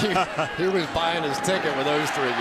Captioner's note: laughs